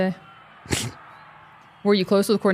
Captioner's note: Undertaker snickering